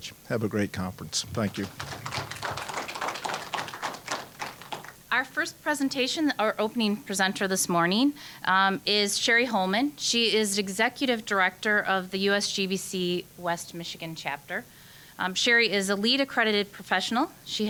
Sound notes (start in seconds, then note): 1.2 applause